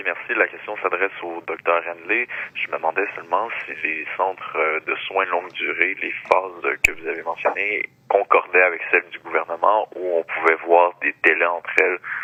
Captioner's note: speaking French